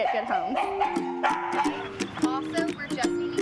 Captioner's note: dog barking